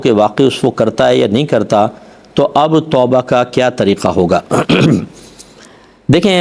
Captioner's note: clears throat